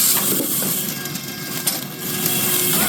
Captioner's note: drill whirring